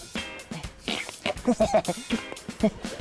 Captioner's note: grunts, chuckles; tense comedic music